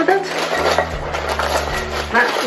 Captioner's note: sound of berries going into the pot